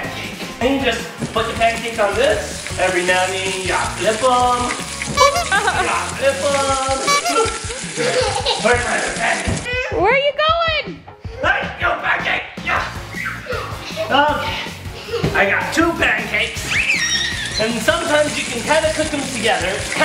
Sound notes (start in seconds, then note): 16.8 giggles